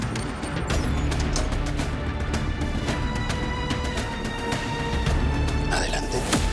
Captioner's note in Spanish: Pitidos